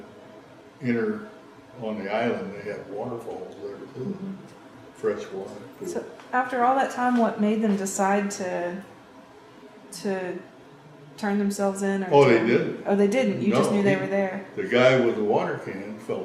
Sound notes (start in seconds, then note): 1.4 laughs